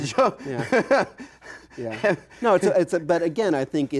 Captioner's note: chuckles